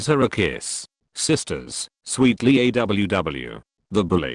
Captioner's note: sweetly